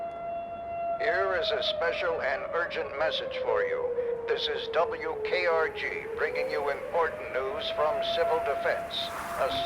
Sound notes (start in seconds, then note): 1.4 radio Voice